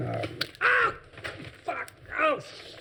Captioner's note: yelling